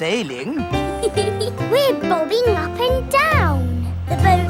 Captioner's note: giggles